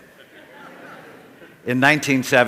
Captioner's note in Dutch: Gelach